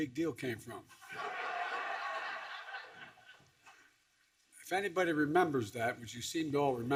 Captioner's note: laughter